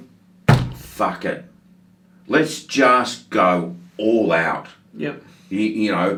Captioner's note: bangs the table